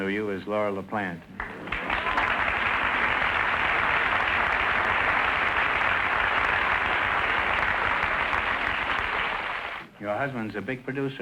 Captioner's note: applause